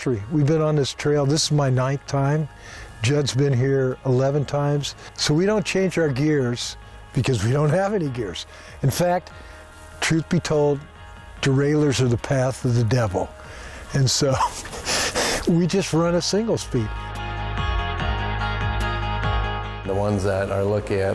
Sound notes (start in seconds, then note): 14.2 chuckling; 17.4 airy music intensifies; 19.7 airy music softens